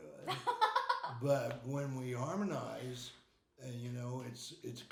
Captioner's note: laughing